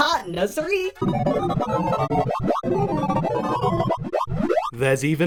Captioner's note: sorting algorithm sounds